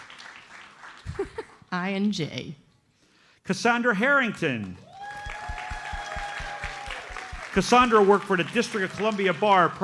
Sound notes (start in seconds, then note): 4.7 audience cheers and applauds